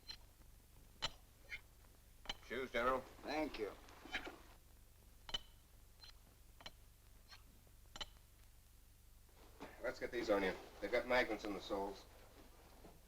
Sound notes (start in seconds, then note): 5.2 magnets clink